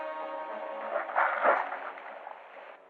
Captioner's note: water splashing